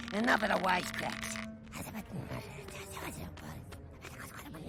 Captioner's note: whispering